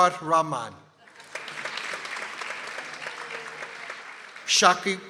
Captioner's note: people applauding